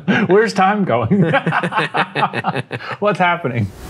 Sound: both laughing

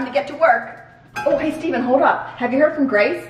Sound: sharp ring

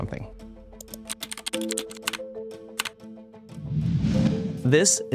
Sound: texts clacking; graphics whooshing

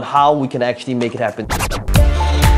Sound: record scratching; energetic music

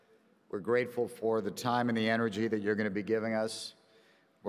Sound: none

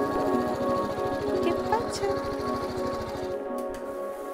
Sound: speaking Spanish

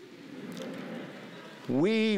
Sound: laughing

